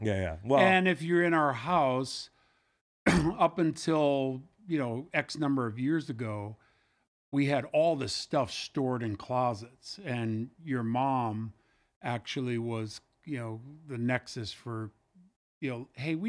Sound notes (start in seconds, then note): 3.0 coughs